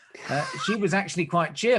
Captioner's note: laughs